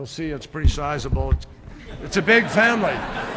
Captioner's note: laughter